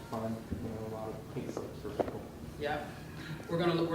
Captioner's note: speaking softly